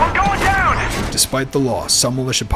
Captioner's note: voiceover